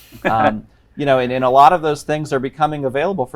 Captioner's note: chuckles